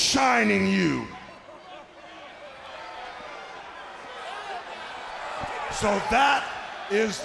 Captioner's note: crowd chatter